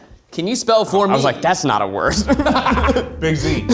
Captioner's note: laughs